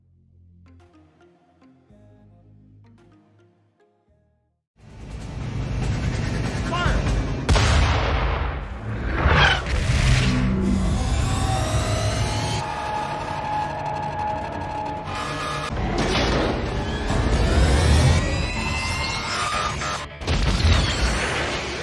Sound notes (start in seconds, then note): 0.0 mellow music; 8.9 explosions; 11.9 weapons whirring